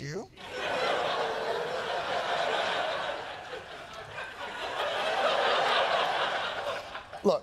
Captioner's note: laughter